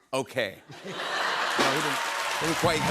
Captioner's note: laughter